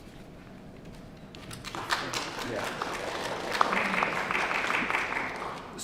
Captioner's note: applause